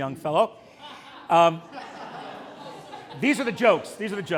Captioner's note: laughter